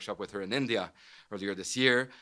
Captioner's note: none